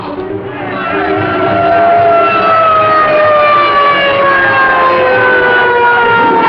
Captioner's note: sirens